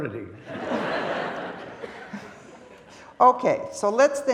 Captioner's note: audience laughing